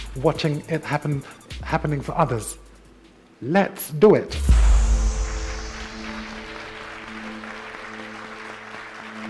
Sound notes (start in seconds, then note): 6.0 clapping